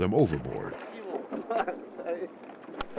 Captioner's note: laughs